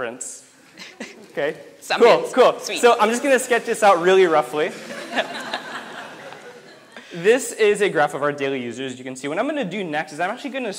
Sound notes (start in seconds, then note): 0.8 light laughter; 4.6 audience laughs